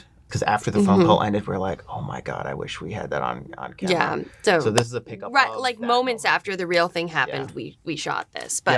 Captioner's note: none